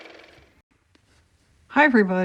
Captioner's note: car motor